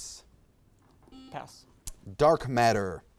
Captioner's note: buzzer beeps